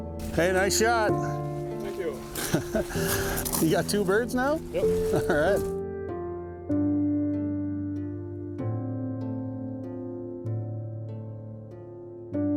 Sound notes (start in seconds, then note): 1.8 laughs; 8.4 soft somber music continues